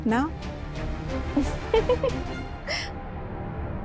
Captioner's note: laughs